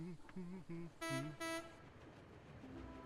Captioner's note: fergus hums; philip honks horn